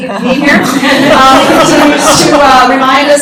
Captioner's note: laughter